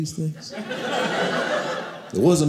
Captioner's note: audience laughing